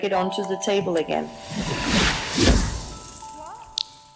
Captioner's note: landing sound